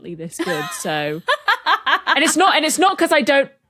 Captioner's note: laughs heartily